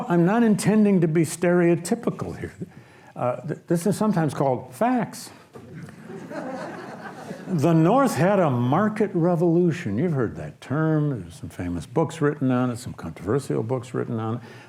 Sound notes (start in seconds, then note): 5.6 audience laughs